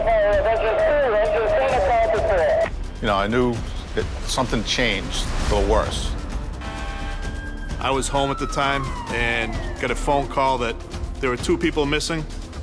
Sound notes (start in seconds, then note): 0.2 radio chatter; 6.6 fire engine horns